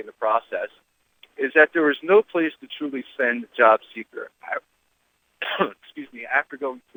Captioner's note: coughs